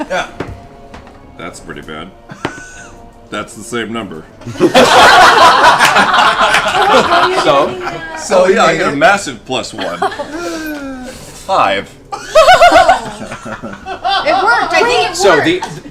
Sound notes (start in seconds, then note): 4.4 laughter